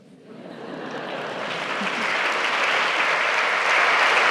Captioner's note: applause